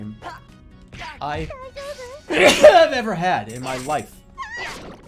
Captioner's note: sneezes